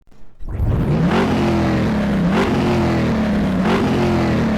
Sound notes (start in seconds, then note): 0.0 engine revving